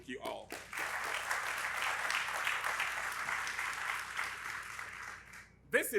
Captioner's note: audience applauding